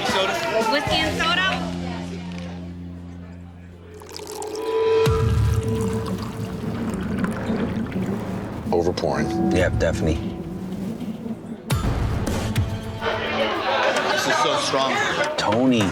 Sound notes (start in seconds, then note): 3.5 liquor pouring